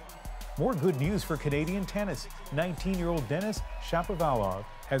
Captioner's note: cheers and Applause